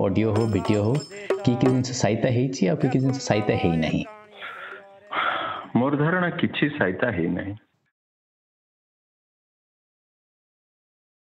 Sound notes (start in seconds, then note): 4.3 gasps